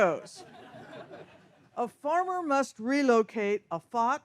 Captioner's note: audience laughs